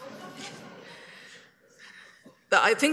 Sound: laughter

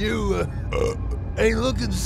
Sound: burp!

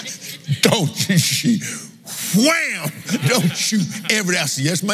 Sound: laughs

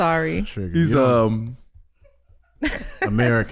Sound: audience laughing

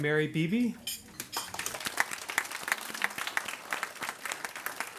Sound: audience applauds

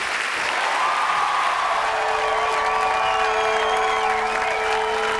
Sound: audience cheers

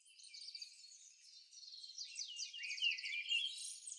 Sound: birds tweeting

